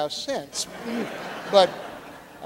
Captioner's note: audience laughing